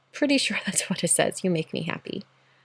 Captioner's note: chuckles